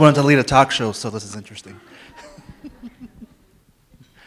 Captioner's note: laughs